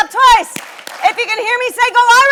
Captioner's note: audience claps